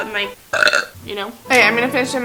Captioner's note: burp